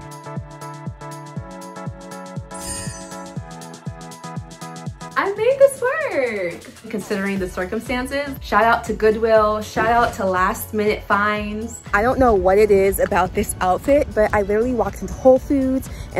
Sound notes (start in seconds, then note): 0.1 upbeat music; 2.5 chimes ringing; 3.8 upbeat music